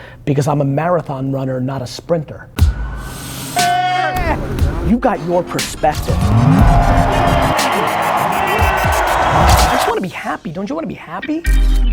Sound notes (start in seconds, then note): 3.6 shouting; 8.1 cheering